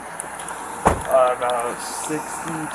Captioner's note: door slams